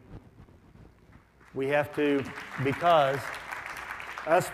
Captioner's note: audience applauds